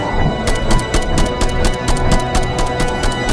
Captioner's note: gun blasting